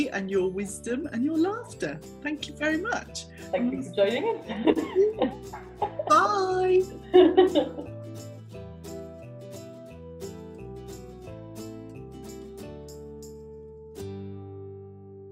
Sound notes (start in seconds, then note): 4.2 laughs; 7.5 upbeat music